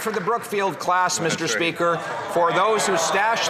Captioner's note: some Applause